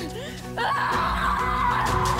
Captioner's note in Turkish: Bağırıyor